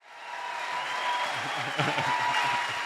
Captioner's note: audience cheering and applauding; laughs